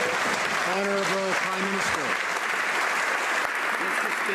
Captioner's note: some Applause